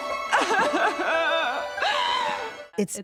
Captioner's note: sobbing